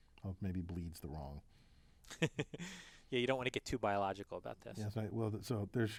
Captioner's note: laugh